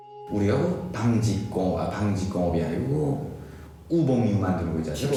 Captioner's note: translator speaking Korean